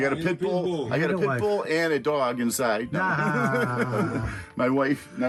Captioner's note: laughs loudly